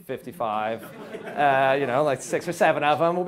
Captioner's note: audience laughs